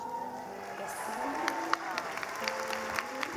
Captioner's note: clapping